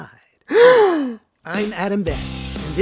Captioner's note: gasp